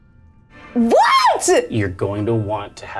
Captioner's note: yells